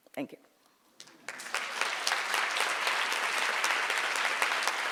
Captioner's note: audience applauds